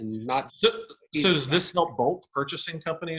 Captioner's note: audio cutting out